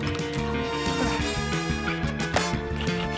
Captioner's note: grunts